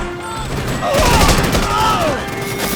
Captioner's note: grunts